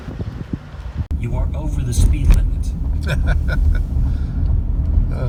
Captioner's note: laughter